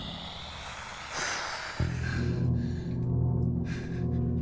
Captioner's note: Lucy panting; spider hissing